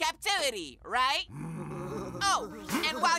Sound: groaning

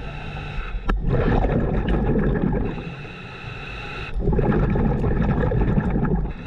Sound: continuous heavy breathing through mask; continuous water bubbling

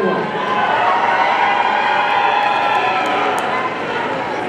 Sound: audience cheering

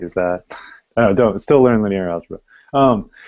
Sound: chuckles

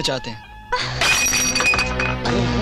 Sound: glass Shatters

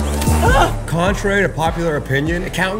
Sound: man yelping

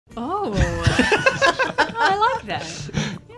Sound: group laughter

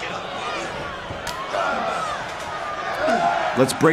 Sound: slapping wrists; crowd cheering

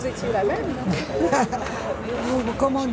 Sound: laughter

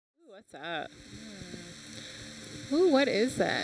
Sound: water whooshes

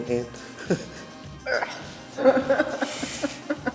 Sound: laughter

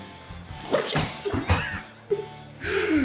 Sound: gentle rock music continues; Poli groaning; glasses shattering; laughs

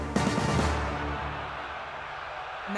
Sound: crowd cheering

